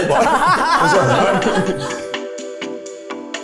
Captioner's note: crew member chuckling; producer chuckling; upbeat music